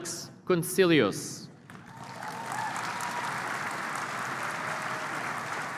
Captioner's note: applause